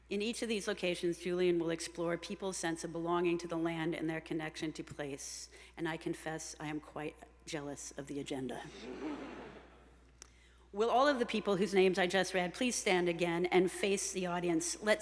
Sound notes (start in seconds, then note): 8.8 attendees chuckling